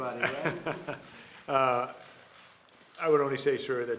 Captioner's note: laughs